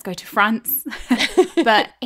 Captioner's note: laughing